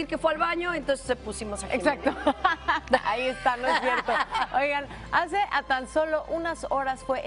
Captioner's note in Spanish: risas